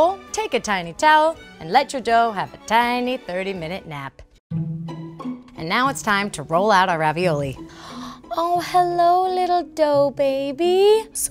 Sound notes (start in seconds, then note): 7.7 gasps